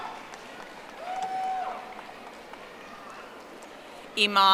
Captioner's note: audience applauding